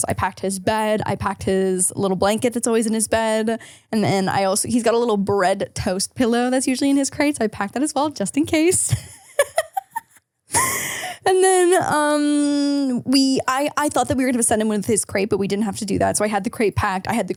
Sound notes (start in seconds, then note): 8.9 laughs